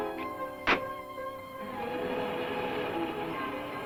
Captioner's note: door thuds; car revving